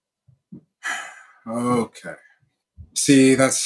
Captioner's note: sighs